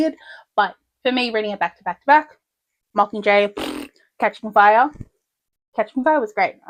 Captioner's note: blows raspberry